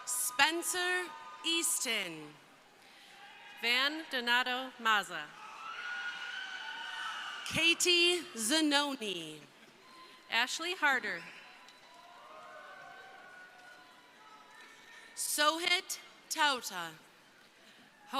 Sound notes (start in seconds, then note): 0.0 crowd cheering; 5.3 crowd cheering; 11.1 crowd cheering